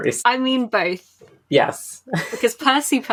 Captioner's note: laughs